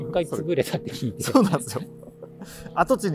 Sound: laughing

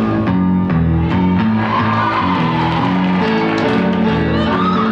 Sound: audience cheering

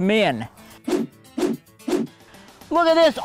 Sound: whooshing

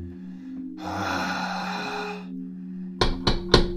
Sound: sighing; knocking

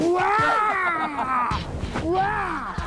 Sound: groaning

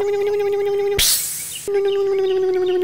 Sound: electric motor hum; hiss; electric motor hum

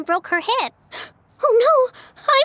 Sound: gasps

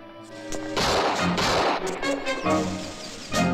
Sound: gun firing

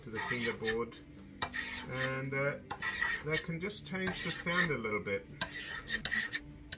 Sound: scraping; scraping; scraping

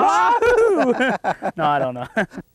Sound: laughter

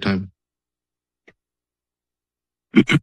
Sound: silence

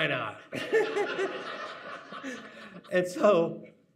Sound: audience laughing

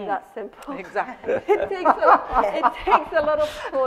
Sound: laughter

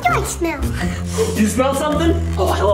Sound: sniffs

